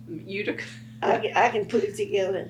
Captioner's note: laughs